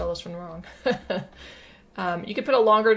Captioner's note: giggles